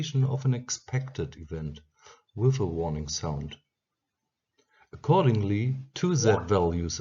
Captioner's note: with a warning sound